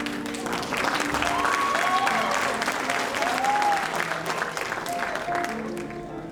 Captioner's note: audience applauding and cheering